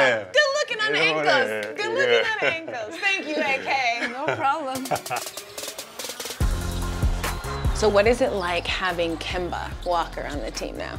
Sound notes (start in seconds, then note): 6.1 laughs